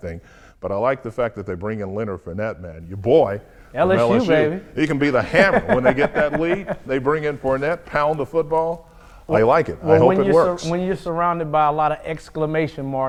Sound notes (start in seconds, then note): 5.4 laughing